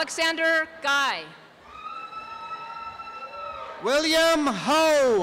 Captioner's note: applause and cheering